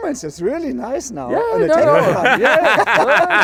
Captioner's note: laughing